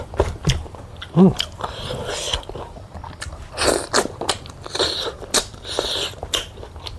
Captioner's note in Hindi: नाक से की जाने वाली आवाज़